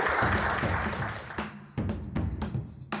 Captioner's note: audience applauding